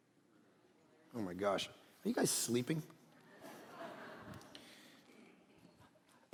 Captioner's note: congregation laughing